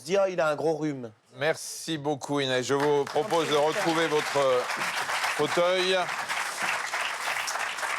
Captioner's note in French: applaudissements